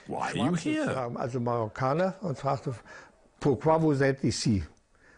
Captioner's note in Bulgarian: Аудио на немски